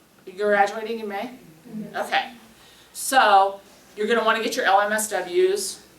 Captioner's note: sounds of agreement